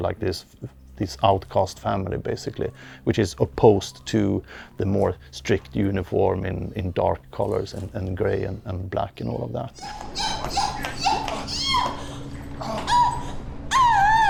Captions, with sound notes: this outcast family basically, which is opposed to the more strict uniform in dark colors, and gray and black, and all of that. (Screams) (Groans)